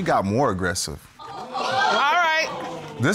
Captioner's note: audience gasping